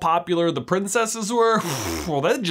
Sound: exhales sharply

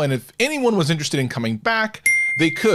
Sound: bell dings

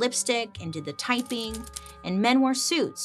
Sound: typewriter clacks

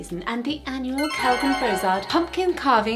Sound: chiming

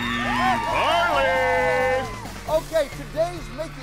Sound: audience applauds

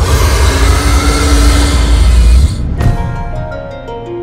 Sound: suspenseful music; demon roaring

